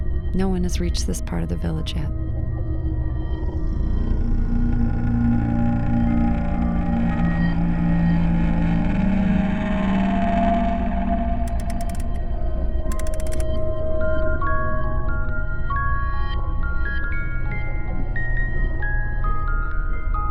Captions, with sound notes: No one has reached this part of the village yet. (baby mobile chiming and moving)